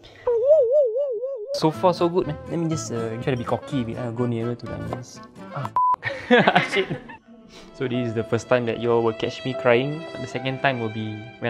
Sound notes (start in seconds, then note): 6.0 laughter